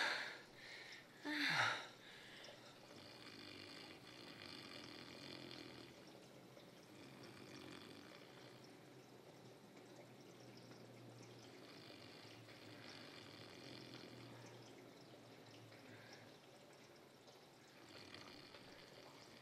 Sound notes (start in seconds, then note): 2.8 snoring